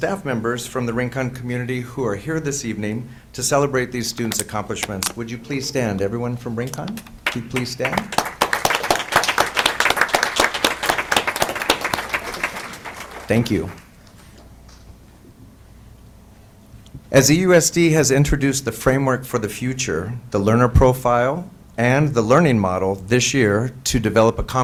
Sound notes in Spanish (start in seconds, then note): 7.2 aplausos